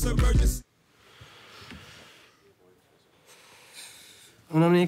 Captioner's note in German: lautes Ausatmen